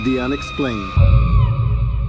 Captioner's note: screaming